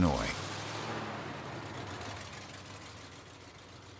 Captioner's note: engine rumbling